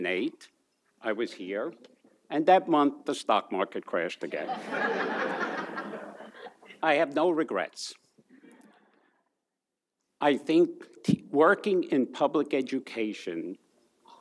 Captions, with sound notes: I was here and that month, the stock crashed again. (audience laughs) I have no regrets. I think working in public education,